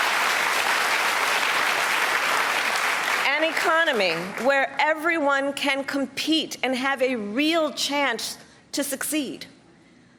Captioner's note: applause